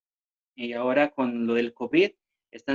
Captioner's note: speaking spanish